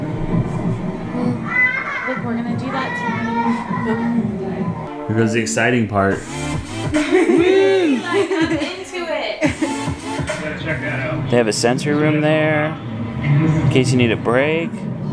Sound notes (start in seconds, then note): 1.4 child laughing on TV; 8.6 laughs